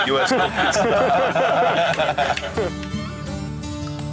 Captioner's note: lalaugughthterer